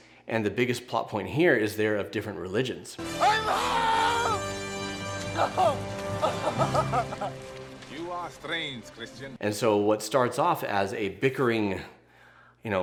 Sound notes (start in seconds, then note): 3.0 bright, triumphant music; 5.2 laughs